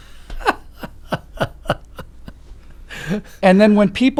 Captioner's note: laughs